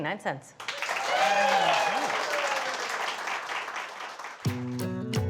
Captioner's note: audience applauding; audience cheering; light upbeat folk music